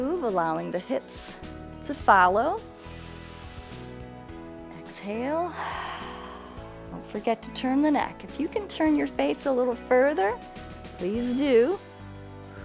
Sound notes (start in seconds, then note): 2.8 inhales; 5.4 exhales